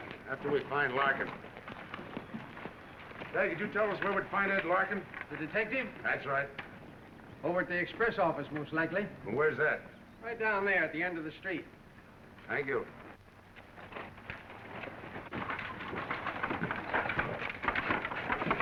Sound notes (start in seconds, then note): none